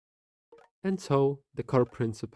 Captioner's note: totally non suspicious notification sounds